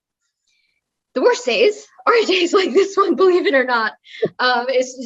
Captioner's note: laugh